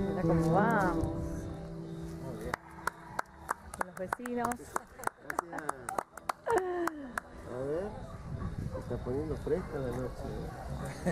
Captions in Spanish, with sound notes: Mirá cómo vamos! (aplausos) los vecinos Se está poniendo fresca la noche, eh